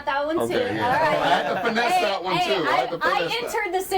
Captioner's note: overlapping chatter